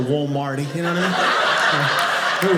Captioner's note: audience laughing